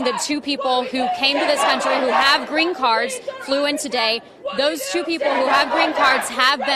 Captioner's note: crowd chanting